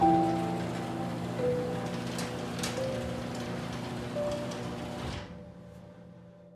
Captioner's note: door closing